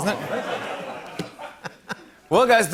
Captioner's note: laughter